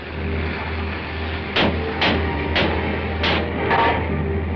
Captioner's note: banging